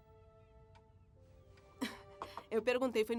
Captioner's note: chuckle